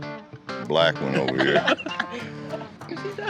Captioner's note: laughter